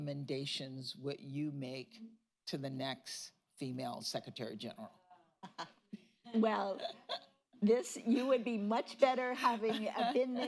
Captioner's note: laughs